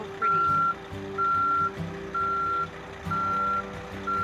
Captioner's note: bus beeping